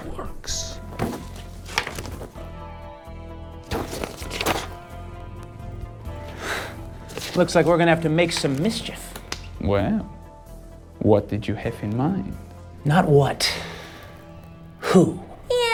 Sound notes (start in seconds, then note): 6.3 exhales excitedly